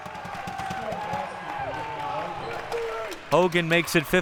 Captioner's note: audience applauding and cheering